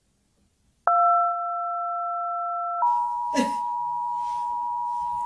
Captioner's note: bell ringing